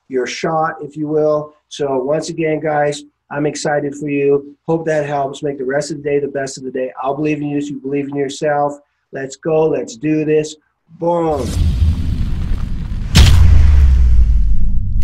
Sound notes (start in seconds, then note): 11.3 explosion